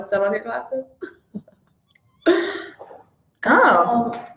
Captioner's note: laughs